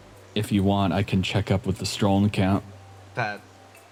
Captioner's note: none